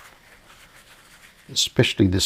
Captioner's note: silence